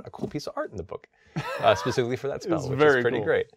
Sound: laughing

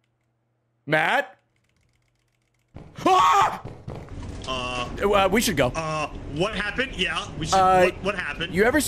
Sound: screams

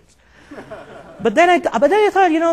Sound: laughing

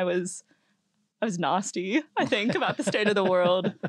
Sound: laugh

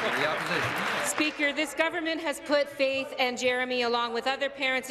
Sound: applause

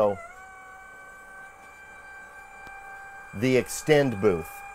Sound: machine revving

